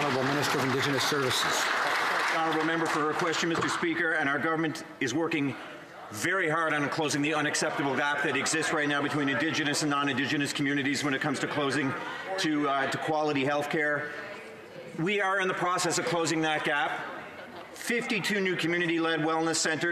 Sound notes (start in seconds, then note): 1.8 some Applause